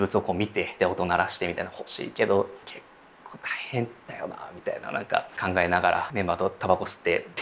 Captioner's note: whispering